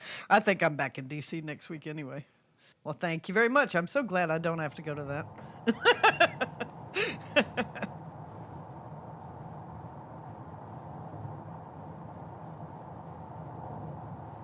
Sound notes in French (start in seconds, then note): 5.6 Rires